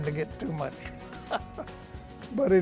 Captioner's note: laughs